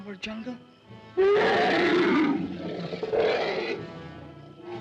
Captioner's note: elephant roars